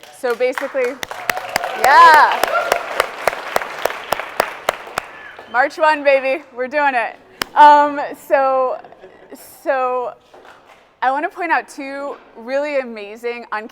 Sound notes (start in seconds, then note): 0.5 audience cheers and applauds